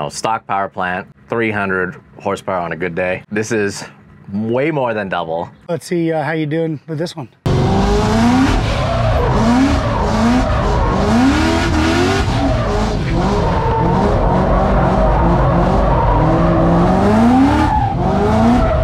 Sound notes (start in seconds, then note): 8.0 car engine revving; 8.0 tires screeching